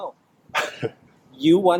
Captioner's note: laughing